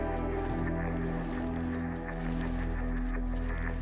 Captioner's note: body dragging